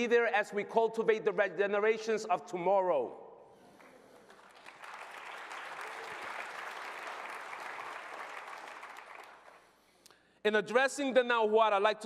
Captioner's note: applause